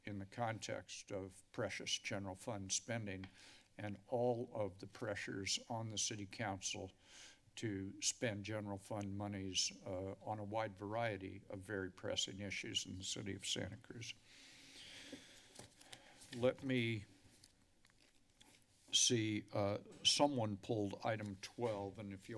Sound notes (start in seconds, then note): 7.0 inhales; 14.2 inhales; 15.4 paper rustling